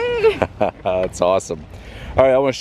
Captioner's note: laughs